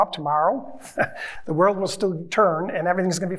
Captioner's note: chuckles